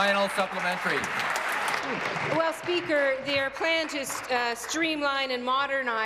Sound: applause

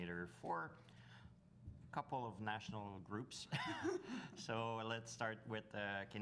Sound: chuckles

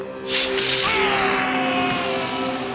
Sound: screaming

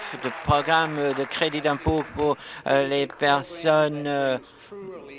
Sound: applause

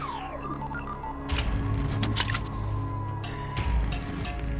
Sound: beam polariser device bleeps and switches off

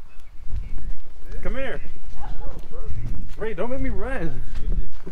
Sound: laughing

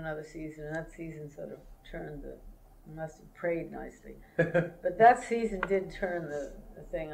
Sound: laughter

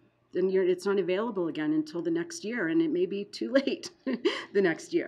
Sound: laughing

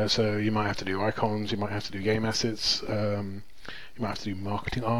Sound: none

